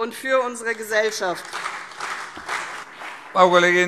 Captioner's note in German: Beifall CDU und BÜNDNIS 90/DIE GRÜNEN